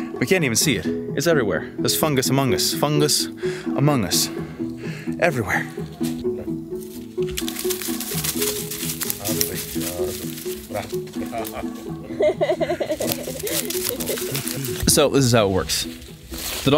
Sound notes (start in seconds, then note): 6.4 happy instrumental music; 11.7 laughing